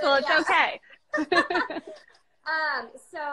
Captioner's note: both laughing